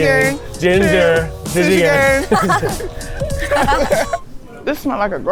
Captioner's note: laughing